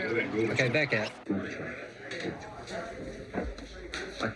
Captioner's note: chatter